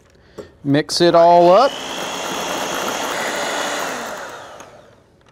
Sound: mixer whirring loudly

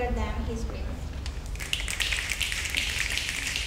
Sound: snapping

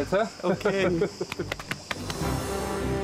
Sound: they laugh

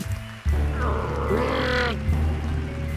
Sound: grunting

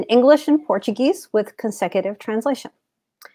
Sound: speaks portuguese

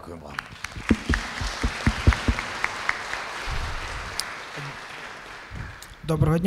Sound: applause

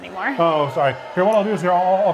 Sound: crowd boos

